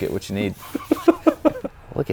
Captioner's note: giggles